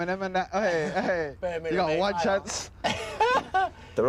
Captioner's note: laughing